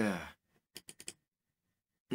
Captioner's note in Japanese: マウスのクリック音：カチカチ